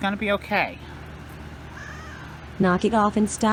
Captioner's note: Caprice meows angrily